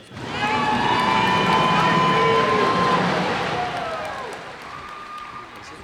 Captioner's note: cheers and applause